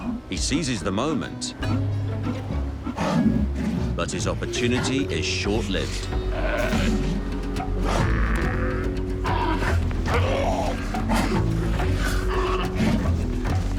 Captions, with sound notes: He seizes the moment but his opportunity is short lived. (sea lions grunting)